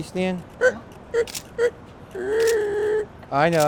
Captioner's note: imitates dog barking; camera shutter clicking